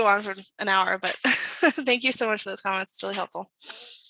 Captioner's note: chuckles